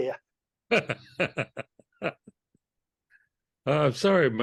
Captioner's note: laughs